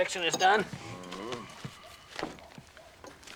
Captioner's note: sighs